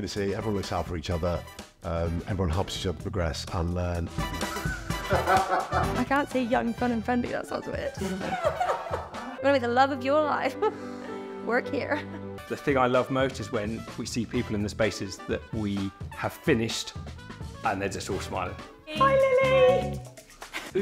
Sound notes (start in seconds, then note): 4.4 employee 4 laughs; 4.7 upbeat music; 8.0 laughs